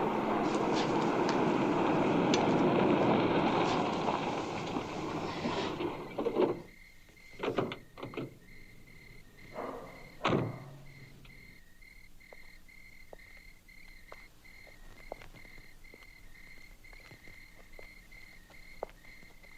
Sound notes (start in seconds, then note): 13.7 footsteps approaching